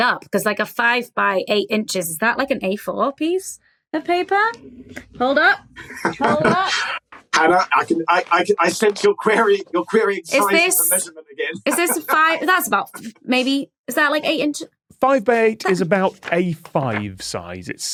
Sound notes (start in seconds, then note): 5.8 chuckles